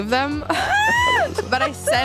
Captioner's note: squeals